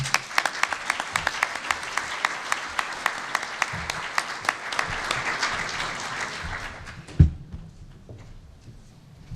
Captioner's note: applause